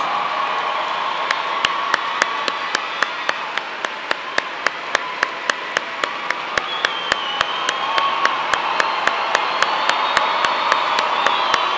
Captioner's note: cheers and applause